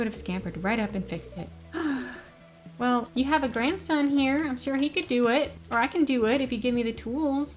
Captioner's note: sigh